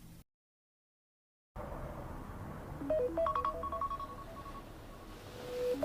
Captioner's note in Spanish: Suena la alarma